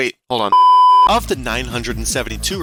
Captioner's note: CRT sine tone sfx